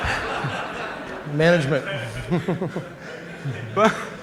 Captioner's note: laughter